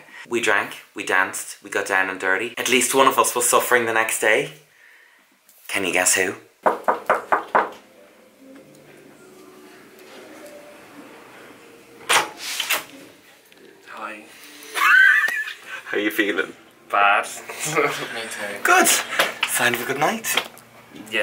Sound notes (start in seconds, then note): 6.6 knocks; 14.6 laughs; 17.7 laughs